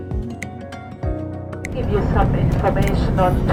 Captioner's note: cabin announcement